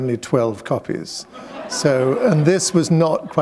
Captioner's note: laughter